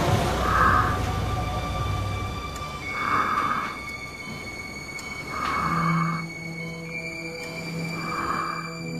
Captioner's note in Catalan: respiracions fortes